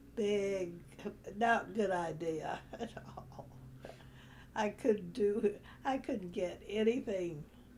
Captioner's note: laughs